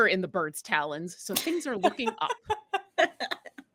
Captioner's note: laughing